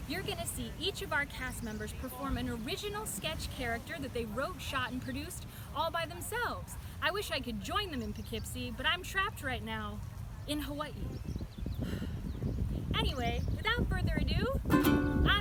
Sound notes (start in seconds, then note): 11.8 sigh; 14.5 ukulele